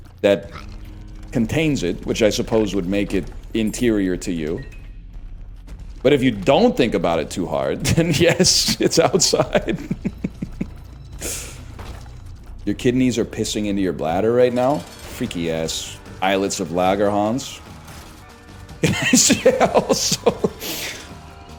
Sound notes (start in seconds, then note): 7.8 laughs; 18.8 laughs